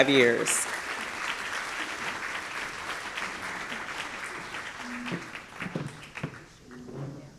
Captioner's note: applause